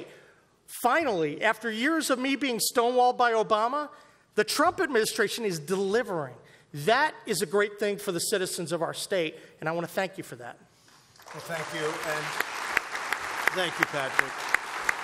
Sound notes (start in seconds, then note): 11.1 applause